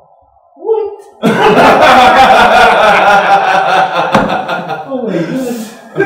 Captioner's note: laughter